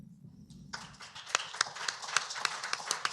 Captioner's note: applause